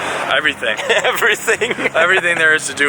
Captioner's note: giggles